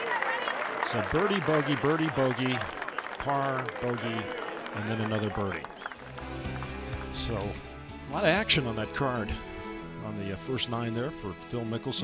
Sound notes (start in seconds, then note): 0.0 cheers and applause